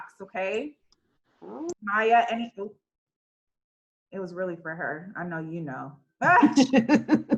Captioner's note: laugh